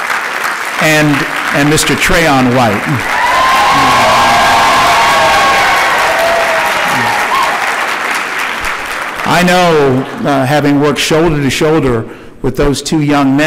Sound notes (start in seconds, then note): 5.8 cheering